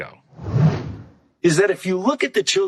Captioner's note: air whooshing